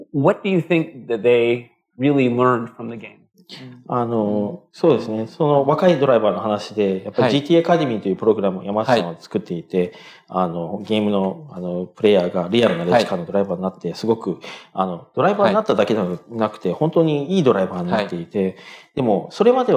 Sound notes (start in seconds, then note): 8.2 speaking japanese